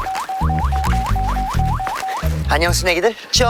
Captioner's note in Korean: 잔뜩 신난 스텝